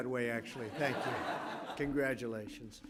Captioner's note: laughter